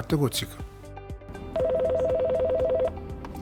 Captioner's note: phone ringing